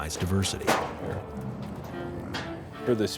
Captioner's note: gate closing